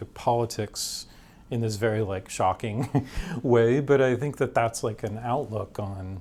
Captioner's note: chuckles